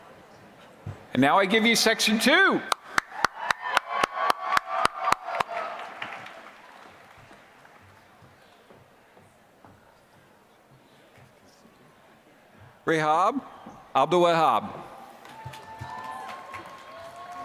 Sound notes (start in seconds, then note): 2.6 applause; 15.1 applause